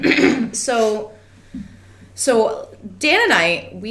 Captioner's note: clears throat